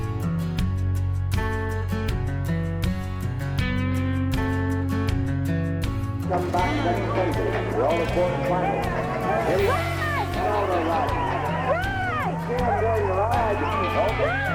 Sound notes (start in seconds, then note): 7.8 crowd cheering; 7.8 people chattering